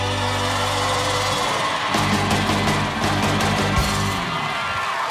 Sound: audience cheers and applauds

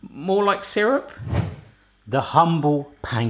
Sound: wind gust transition effect

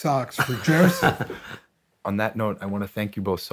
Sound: all chuckling

